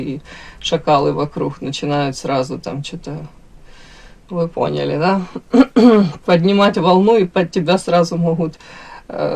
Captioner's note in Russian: откашливается